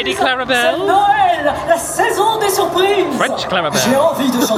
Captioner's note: Clarabelle speaking in French